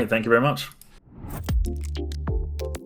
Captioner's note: air whooshing softly; mellow synth music